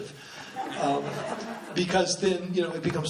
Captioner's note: laughing